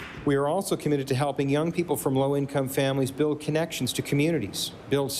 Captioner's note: applause